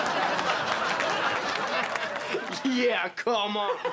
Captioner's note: both laughing